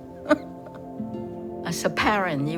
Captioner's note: laughing